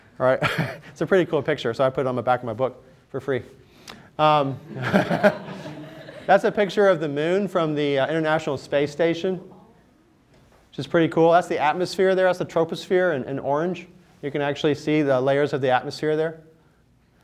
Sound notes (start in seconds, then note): 4.6 laughter